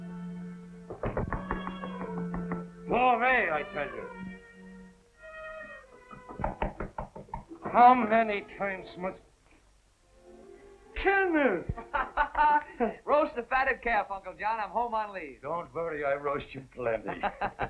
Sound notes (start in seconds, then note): 0.9 knocking; 6.2 knocking; 11.5 laughing